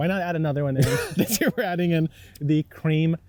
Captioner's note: laughing